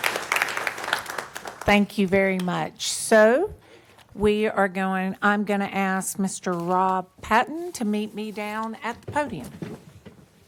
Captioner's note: applause